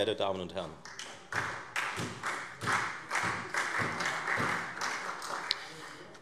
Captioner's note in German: Beifall Freie Demokraten und SPD